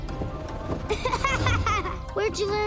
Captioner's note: laughing